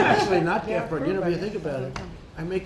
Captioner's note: laughter